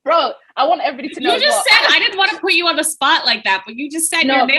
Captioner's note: laughing